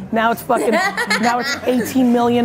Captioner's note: laughs